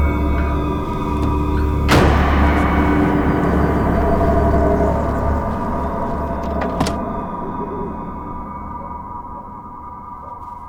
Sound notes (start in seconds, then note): 1.9 trunk thudding